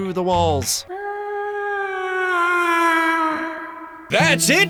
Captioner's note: ghostly chicken whail